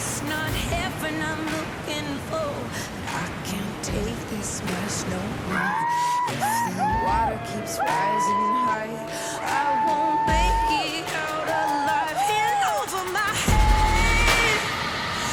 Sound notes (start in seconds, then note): 6.1 cheers